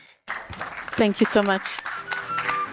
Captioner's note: applause